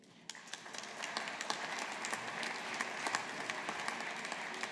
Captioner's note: audience applauding